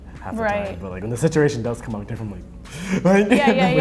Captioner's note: laughing